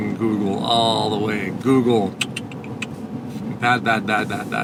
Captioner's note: tsking